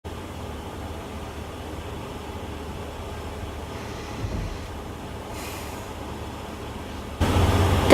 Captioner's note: construction noise in the background